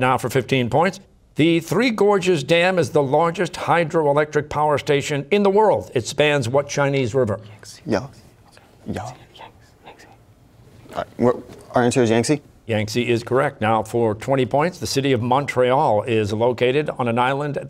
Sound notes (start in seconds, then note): 7.9 quietly; 9.0 whispering